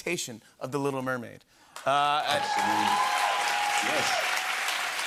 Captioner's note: cheers and applause